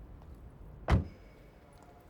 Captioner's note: door shuts